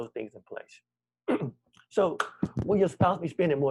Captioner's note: clears throat